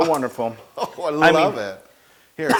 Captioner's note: laugh